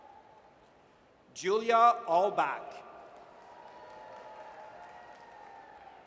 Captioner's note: audience cheers